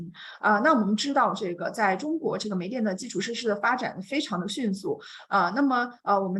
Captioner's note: continues speaking in Mandarin